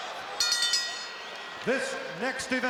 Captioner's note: bell rings